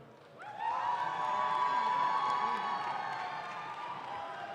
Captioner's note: audience claps